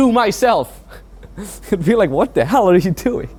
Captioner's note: laughs